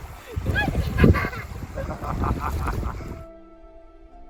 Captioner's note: laughs